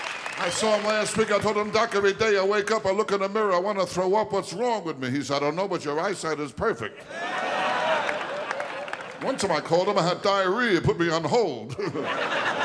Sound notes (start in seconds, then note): 0.0 audience cheering and clapping; 7.0 audience laughing